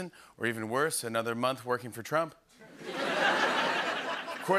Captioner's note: laughter